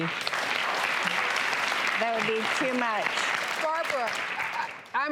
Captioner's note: applauding